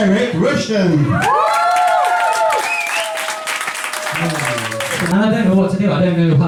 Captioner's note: cheering and applause